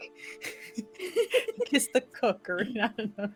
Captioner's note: all chuckling